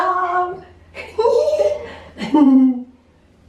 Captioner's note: giggling